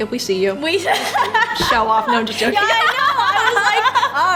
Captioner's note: laughs